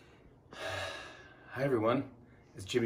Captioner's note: heavy sigh